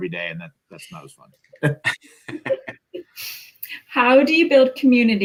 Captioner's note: laughter